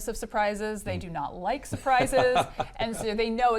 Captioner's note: chuckles